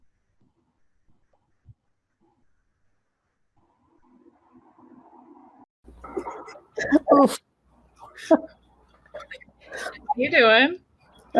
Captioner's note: laughing